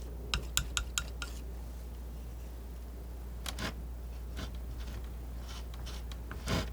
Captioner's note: tapping